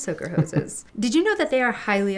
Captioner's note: laughs